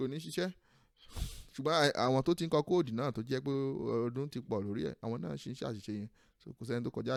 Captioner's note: sighs